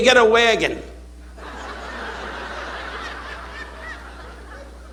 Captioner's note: audience laughing